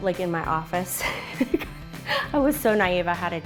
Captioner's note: laughs